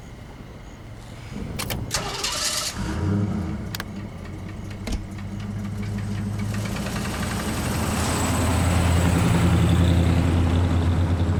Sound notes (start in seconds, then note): 1.1 engine starts